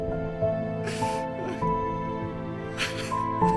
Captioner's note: crying